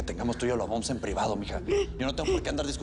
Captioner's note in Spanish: Llanto de Déborah